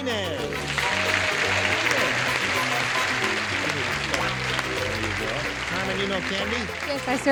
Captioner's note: applause